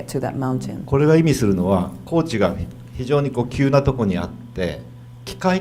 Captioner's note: speaking foreign language